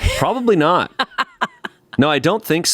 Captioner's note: laughs